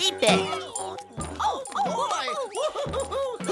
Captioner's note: shouts/ laughter; gasp